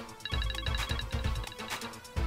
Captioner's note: Phone ringing